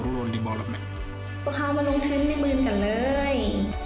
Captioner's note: speaks in foreign language